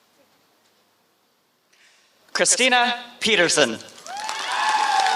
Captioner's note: applause